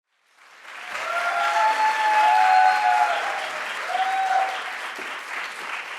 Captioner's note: audience applauding and cheering